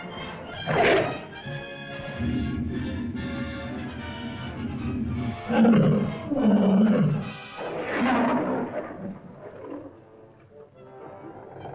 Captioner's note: suspenseful music; lizard growls